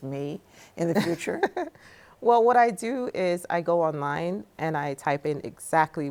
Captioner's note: laughs